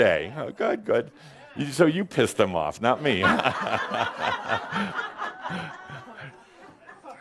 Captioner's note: laughter